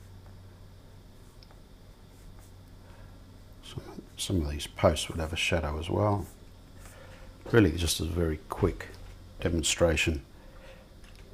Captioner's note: silence